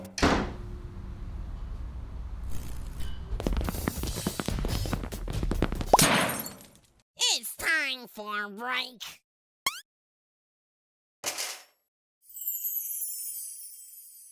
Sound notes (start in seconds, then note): none